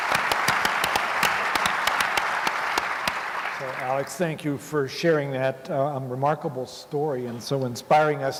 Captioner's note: applause